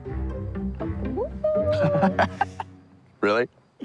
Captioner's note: soft howling; laughing